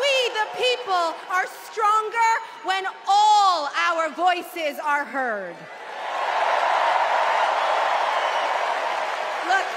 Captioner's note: cheers and applause